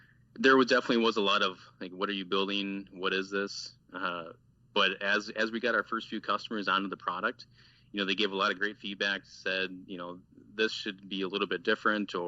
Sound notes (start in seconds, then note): 4.0 man laughs